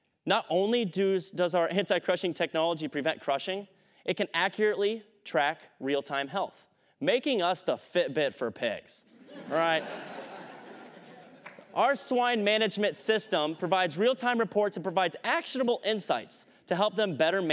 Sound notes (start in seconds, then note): 9.1 laughter